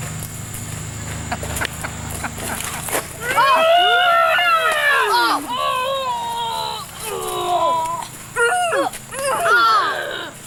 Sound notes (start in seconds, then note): 1.3 laughs; 3.2 screaming; 9.1 grunting